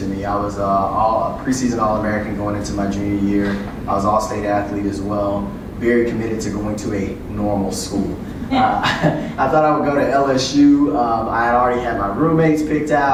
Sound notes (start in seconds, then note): 8.4 laugh